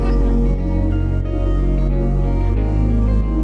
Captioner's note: indistinct chatter